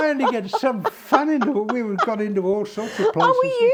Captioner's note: laughter